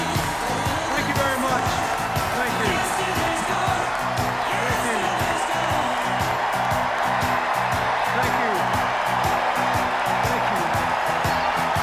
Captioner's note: sustained cheers, applause